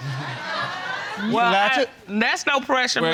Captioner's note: audience laughing